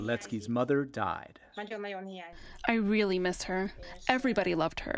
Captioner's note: through translator